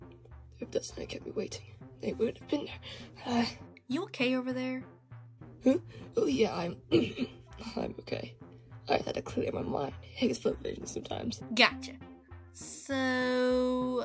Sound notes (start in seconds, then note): 6.9 clears throat